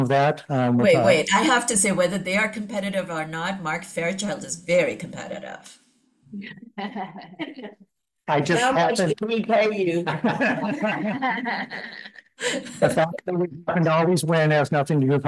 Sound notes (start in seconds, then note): 6.7 laughter